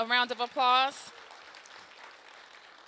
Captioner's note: applause